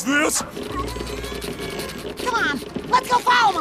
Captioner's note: groans of flexing those powerful muscles